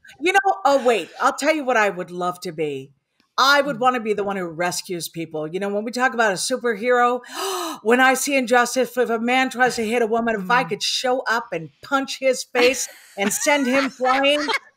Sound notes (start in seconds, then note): 7.3 gasps